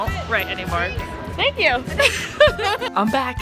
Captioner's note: laughs